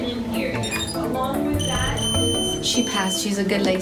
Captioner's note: beeping